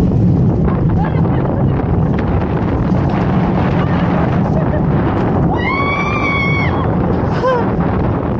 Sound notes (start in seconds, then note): 5.5 screams!!